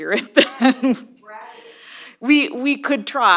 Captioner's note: laughs